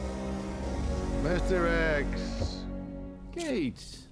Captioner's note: scottish accent